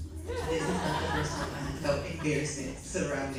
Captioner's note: audience laughs